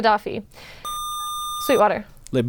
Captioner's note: buzzer